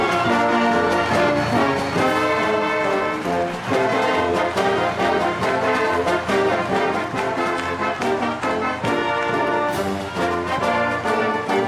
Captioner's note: cheers and applause